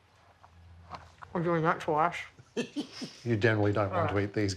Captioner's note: laughs